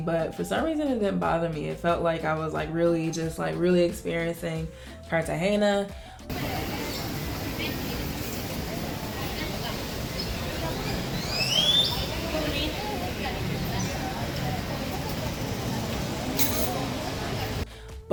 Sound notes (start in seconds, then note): 7.1 birds chirping; 8.4 people murmuring in foreign language